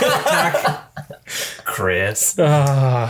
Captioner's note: everyone laughs